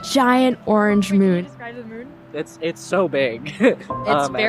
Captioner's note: laughs